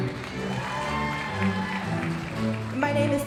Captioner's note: audience applauding